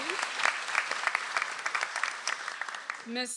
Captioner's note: audience applauds